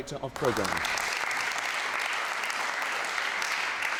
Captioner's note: crowd applauds